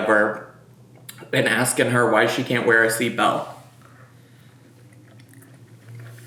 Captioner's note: chews